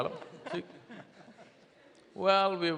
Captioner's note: few laugh